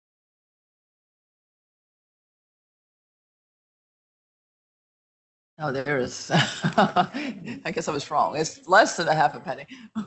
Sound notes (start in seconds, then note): 6.3 laughing